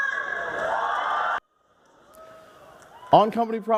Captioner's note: crowd